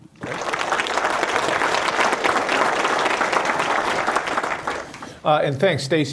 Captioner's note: applause